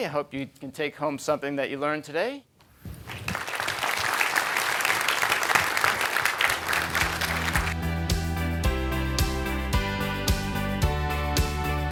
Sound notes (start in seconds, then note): 3.0 crowd clapping; 6.4 upbeat music